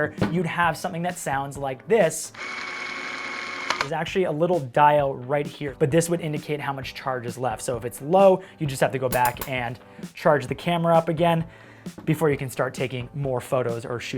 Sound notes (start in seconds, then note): 2.4 machine whirring